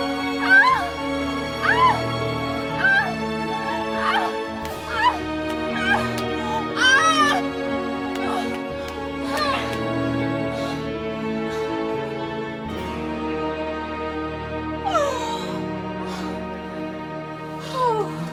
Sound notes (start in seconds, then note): 0.1 suffocating; 8.0 struggling to breathe